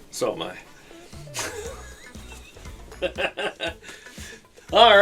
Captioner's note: laughs